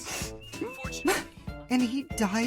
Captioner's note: sniffle; holding back tears